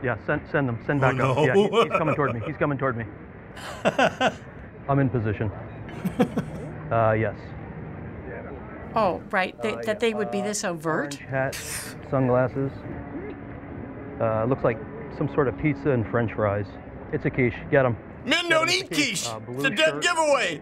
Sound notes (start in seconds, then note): 1.0 laughing; 3.6 laughs; 6.2 chuckles